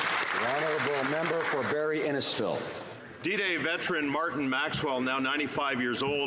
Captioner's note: applause